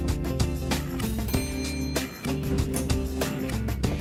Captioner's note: elevator dinging